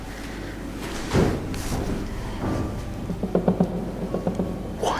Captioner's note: footsteps or knocks